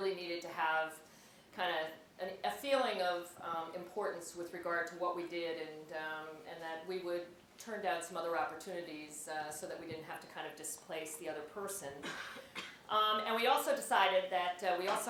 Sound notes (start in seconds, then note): 12.0 cough